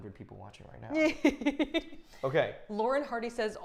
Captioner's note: Safiya giggling loudly